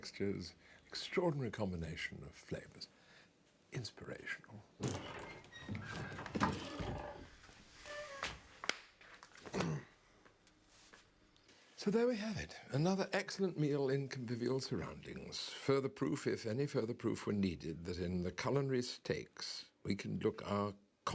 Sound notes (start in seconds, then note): 4.8 door creaking